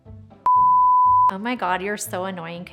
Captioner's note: production screen beeping